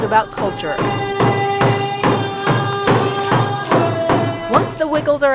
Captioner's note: Chanting in Tlingit